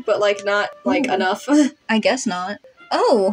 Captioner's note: chuckle